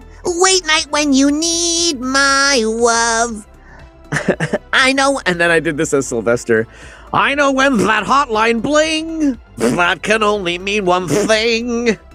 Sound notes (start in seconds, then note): 7.1 Sylvester voice